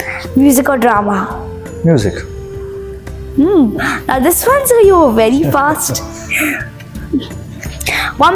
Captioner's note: laughs